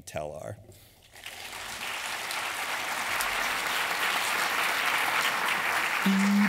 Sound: applause

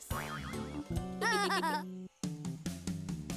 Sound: laughing

